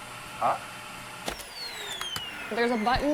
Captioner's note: vacuum cleaner turns off